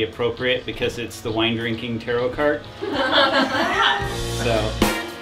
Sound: laughter in the room; funk Ballad Music Plays

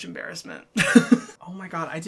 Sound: laughs

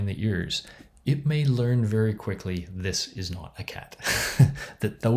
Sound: chuckles

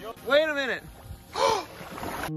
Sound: Mark Rober gasps

